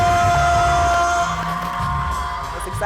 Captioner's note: cheers and applause